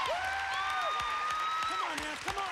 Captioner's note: cheers and applause